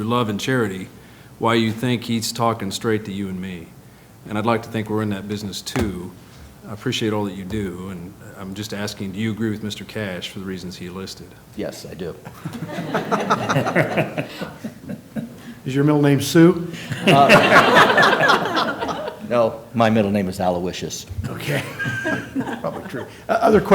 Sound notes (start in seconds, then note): 13.6 laughter; 21.2 laughter